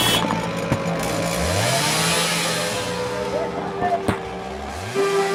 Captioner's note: cars honking; sound of a chainsaw roaring